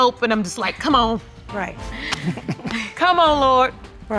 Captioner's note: all chuckle